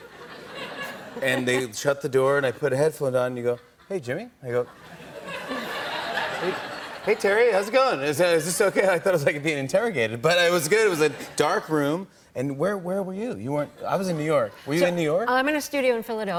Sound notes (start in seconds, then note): 4.6 laughter